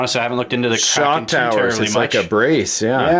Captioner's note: voiceover